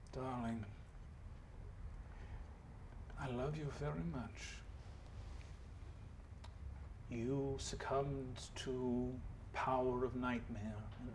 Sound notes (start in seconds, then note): none